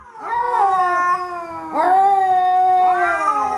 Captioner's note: cat yowling